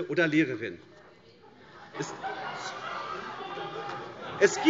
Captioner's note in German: Lachen